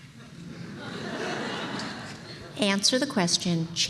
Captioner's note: laughter